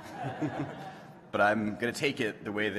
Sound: laughter

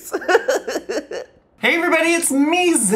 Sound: giggles

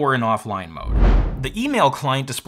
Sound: transition whooshes

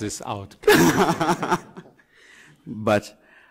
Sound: group laughing

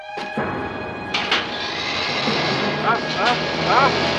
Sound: suspenseful music; trimmer whirring; Harless groaning

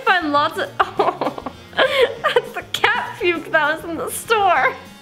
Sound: laughs

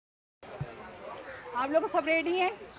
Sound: speaking urdu

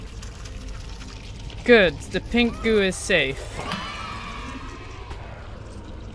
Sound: cheering noises

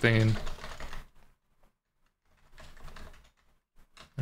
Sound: keyboard clattering

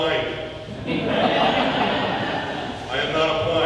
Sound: audience laughing

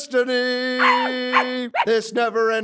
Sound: bark bark bark

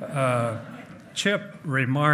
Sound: hearty laughing

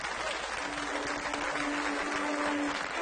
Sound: cheers and applause

